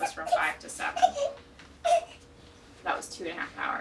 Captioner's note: baby squealing